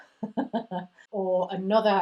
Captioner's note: giggles